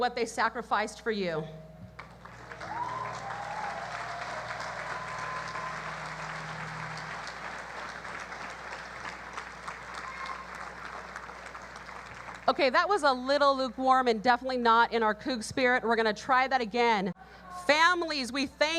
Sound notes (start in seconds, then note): 2.7 audience cheers